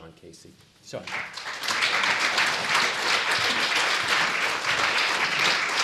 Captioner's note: applause